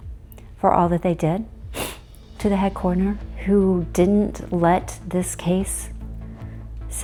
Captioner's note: sniffs